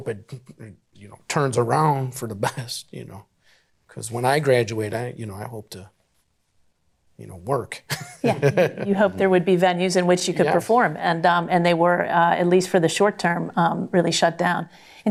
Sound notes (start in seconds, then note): 7.8 laughs